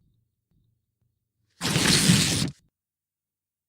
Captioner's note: ripping